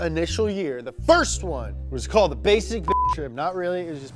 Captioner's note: beep